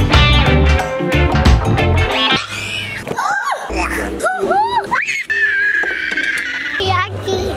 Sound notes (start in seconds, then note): 2.1 scream; 3.4 gasp; 3.5 gasps; 4.2 screams; 4.9 screeches; 4.9 squeals